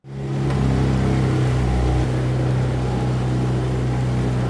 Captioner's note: motorboat engine roaring